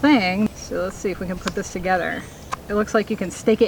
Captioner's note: audible Click